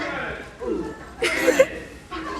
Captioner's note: giggling